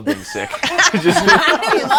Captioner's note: all laughing